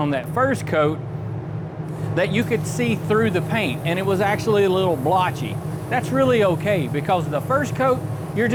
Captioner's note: whirring